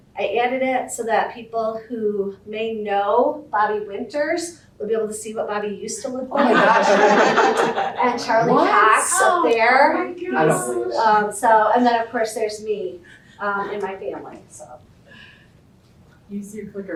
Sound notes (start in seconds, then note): 6.4 audience laughter